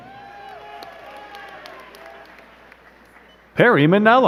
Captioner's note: crowd cheering and clapping